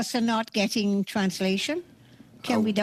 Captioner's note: speaking French